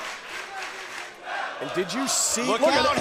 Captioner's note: crowd cheering